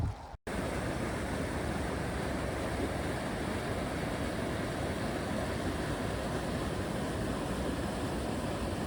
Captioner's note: water crashing